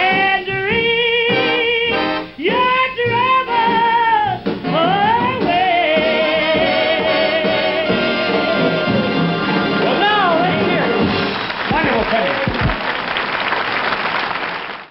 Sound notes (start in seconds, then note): 9.3 audience applauds